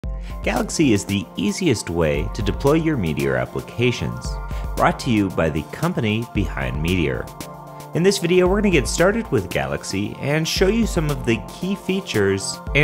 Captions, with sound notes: - [Voiceover] Galaxy is the easiest way to deploy your Meteor applications, brought to you by the company behind Meteor. In this video, we're going to get started with Galaxy and show you some of the key features